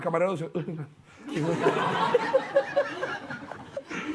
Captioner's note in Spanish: Risas